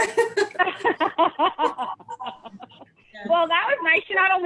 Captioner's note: laughing